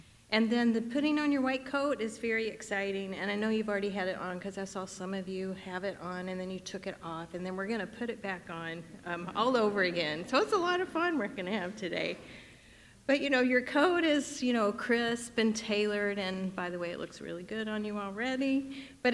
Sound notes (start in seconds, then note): 9.5 audience laughing